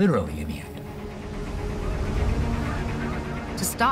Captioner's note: birds squawking